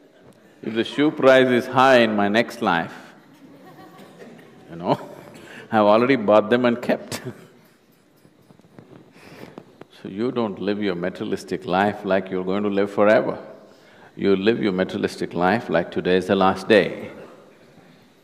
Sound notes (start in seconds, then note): 6.6 laughs